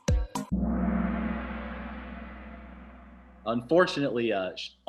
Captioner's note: gong